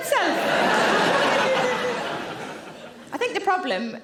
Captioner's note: audience laughing